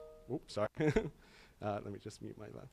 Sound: chuckles

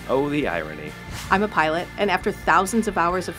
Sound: voiceover

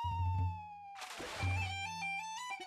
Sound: water splashing

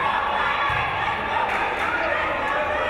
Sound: crowd

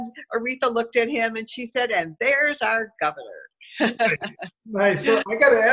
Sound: laughter

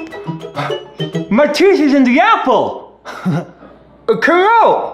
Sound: chuckle

